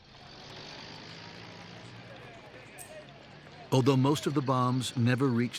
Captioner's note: car engine revs